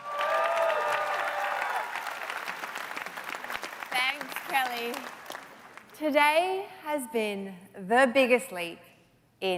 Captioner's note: applause